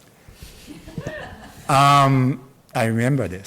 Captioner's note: audience laughs